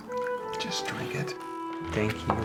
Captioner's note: whispers